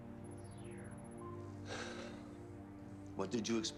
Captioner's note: sigh